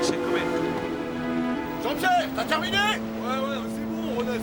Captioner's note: french sailors shout